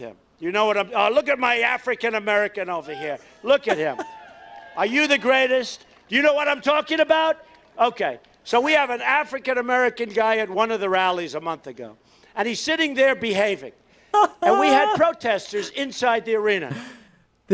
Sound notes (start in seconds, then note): 3.6 chuckles; 14.1 laughs